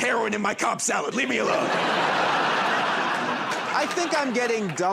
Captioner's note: laughter and applause